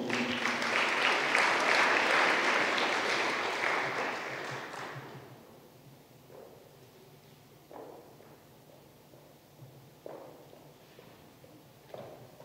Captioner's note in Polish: oklaski